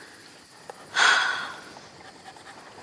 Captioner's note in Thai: เสียงถอนหายใจ